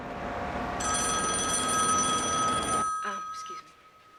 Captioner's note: phone ringing